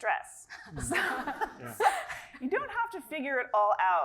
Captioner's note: laugh